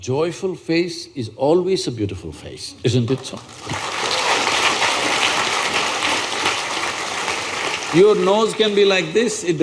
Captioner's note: applause